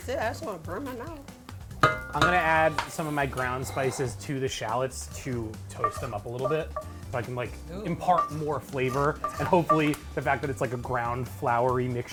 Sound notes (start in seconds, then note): 1.8 spoon clanging